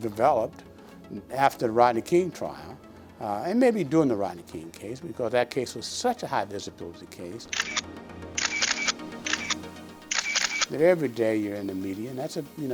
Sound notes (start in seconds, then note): 7.3 camera shutter clicking